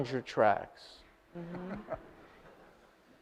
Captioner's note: audience laughs